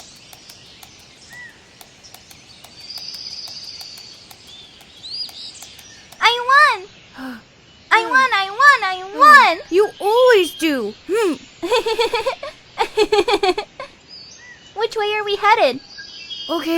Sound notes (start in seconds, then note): 7.1 Ezrak gasping; 11.6 Acela giggling